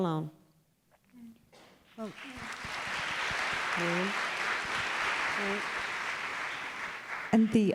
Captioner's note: applause